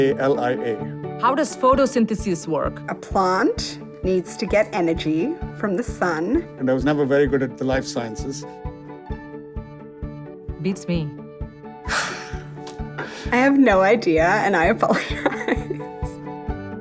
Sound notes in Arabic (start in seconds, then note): 11.8 صوت ضحكات